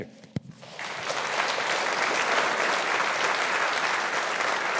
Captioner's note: audience applauding